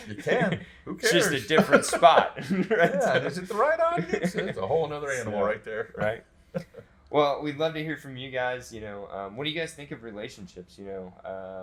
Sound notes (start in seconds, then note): 2.6 laughter